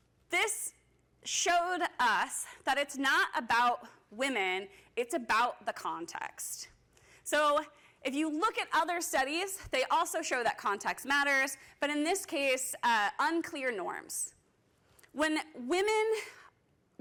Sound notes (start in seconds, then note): none